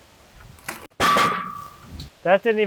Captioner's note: metals clanging